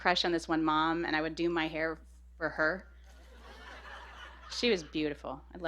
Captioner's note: laughter